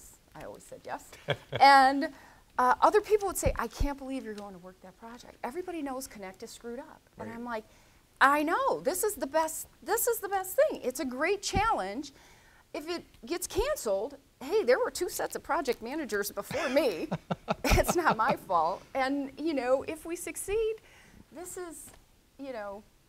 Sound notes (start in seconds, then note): 16.5 laughter